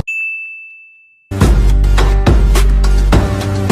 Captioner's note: bell dings